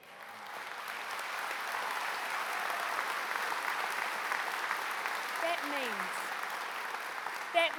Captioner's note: applause